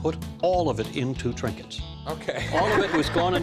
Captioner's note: laughter